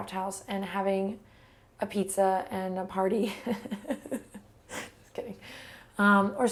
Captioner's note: laughs turn into sobs